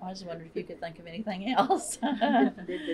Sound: laughter

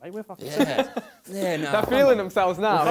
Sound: laughter

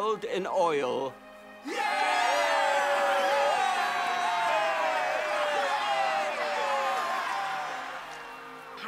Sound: cheering

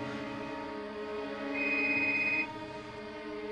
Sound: cell phone ringing

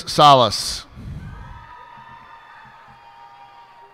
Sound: cheers and applause

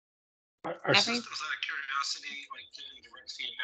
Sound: voice muffling

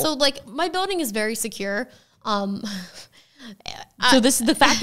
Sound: chuckles

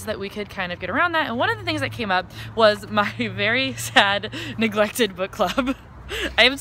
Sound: laughs

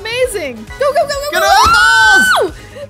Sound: screaming

